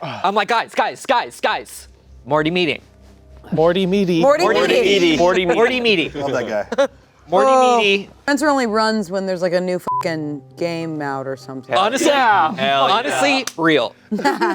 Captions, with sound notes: - I'm like, "Guys, guys, guys, guys. Morty meeting." - Morty meaty. - Morty meaty. - Morty meaty. Morty meaty. - Morty meaty. - Love that guy. - Morty meaty. - Spencer only runs when there's, like, a new (beep) game out or something. - Honestly, honestly, real. - Hell yeah. Hell yeah.